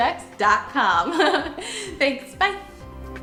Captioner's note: laughs